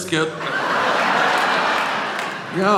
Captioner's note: audience laughing